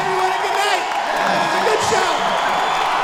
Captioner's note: audience cheers and claps